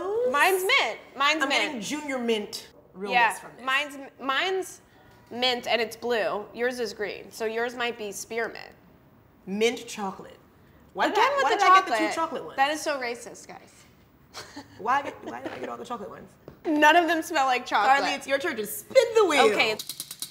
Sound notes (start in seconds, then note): 14.3 chuckling